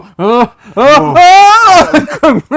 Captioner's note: screaming